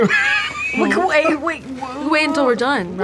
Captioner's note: laughter